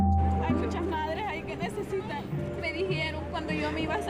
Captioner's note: speaking spanish